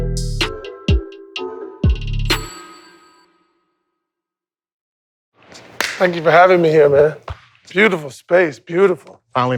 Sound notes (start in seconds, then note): 5.5 hands slapping